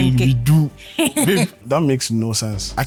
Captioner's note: laughs